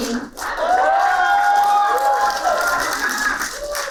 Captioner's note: applauding